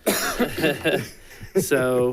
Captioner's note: people laughing